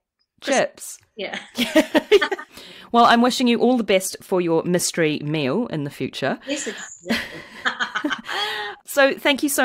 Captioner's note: laughs